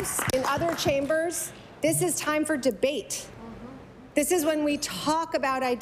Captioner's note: applause